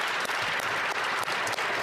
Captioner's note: applause